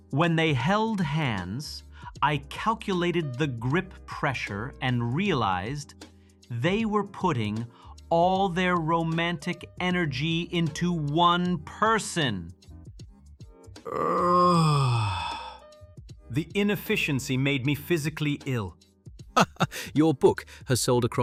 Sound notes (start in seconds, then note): 13.8 nauseated groan; 19.4 laugh